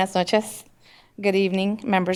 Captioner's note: speaking in spanish